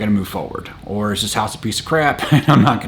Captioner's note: chuckles